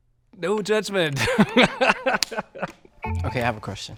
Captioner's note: laughs